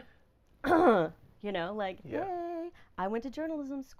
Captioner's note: laughing; coughing awkwardly